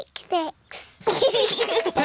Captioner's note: both laugh